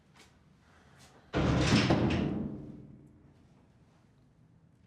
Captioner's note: door closes